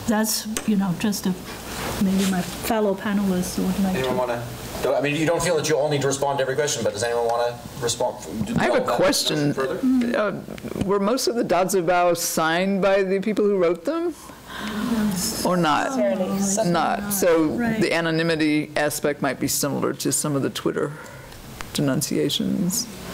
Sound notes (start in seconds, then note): 14.6 panel chatter